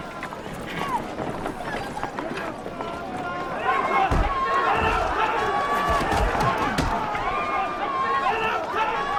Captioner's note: roar of chatter